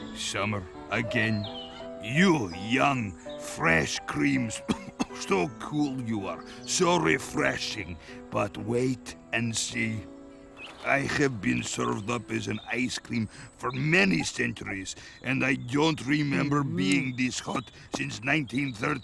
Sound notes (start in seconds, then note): 4.5 coughs